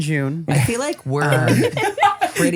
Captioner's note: laugh